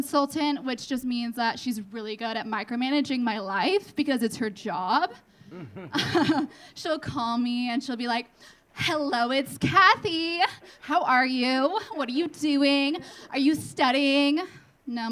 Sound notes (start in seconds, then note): 5.5 laughing; 5.7 audience laughing